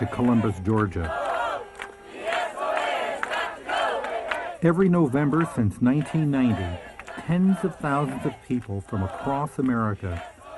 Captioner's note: applause